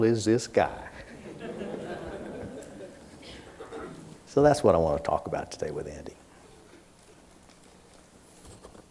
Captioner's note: laughter